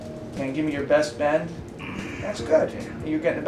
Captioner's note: slight groan